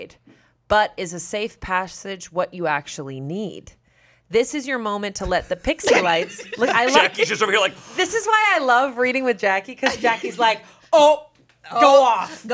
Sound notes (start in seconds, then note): 5.8 laughs